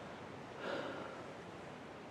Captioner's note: soul-weary sigh